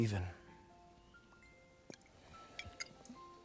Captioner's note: drinking